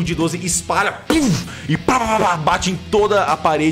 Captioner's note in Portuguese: puff